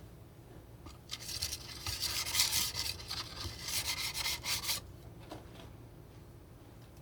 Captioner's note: scratching